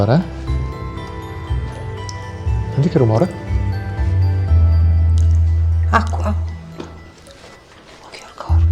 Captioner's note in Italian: rumore di gocce d'acqua